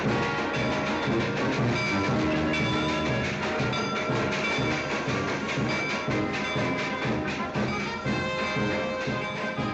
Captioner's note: marching band playing; train chugging; band playing loudly